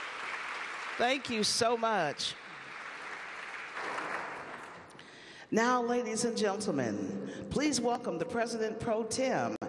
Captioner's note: applause